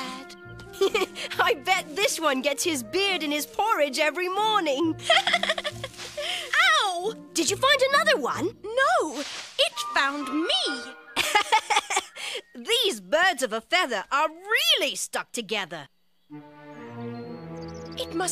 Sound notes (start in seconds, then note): 5.0 she laughs